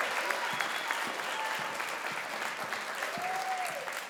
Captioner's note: crowd applauds